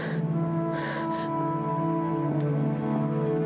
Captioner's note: sobbing